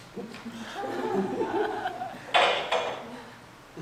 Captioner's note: audience laughs; sound of clattering items